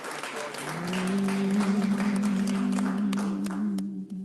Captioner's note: people humming